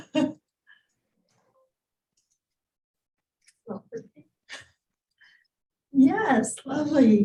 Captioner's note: chuckling